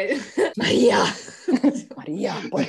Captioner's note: spanish soap opera style